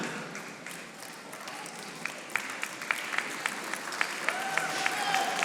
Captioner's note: audience applauding